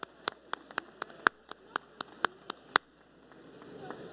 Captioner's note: applause